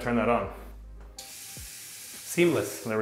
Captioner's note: water sputtering